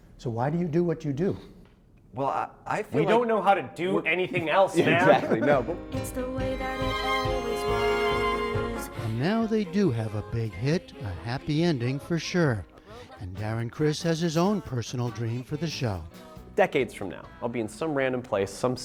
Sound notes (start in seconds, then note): 4.8 laughter